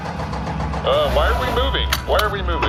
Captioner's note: shop RV engine turns on